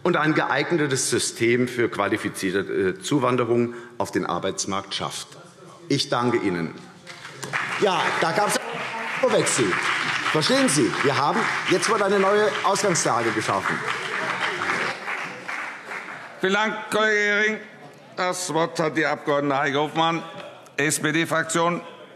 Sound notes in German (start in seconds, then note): 7.0 Beifall CDU und BÜNDNIS 90/DIE GRÜNEN